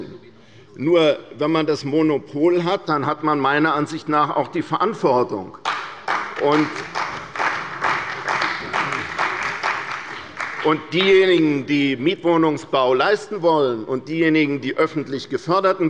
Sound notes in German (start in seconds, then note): 5.6 Beifall bei der CDU und dem BÜNDNIS 90/DIE GRÜNEN